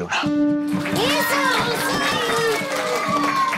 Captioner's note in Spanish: Aplausos; Aclamaciones